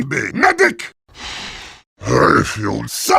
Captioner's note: deep inhale